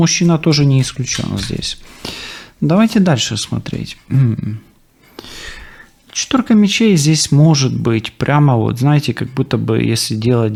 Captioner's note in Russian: откашливается